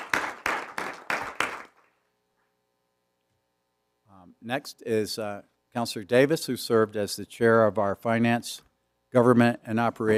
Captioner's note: applause